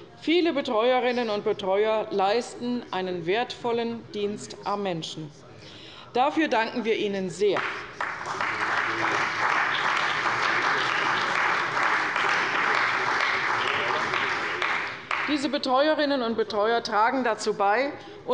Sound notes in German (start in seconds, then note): 7.5 Beifall bei der CDU und dem BÜNDNIS 90/DIE GRÜNEN